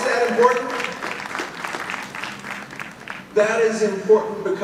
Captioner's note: audience applauding